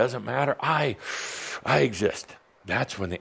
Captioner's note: deep breath